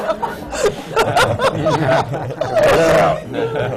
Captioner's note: laughter